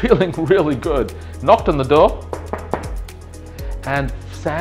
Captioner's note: loud knocking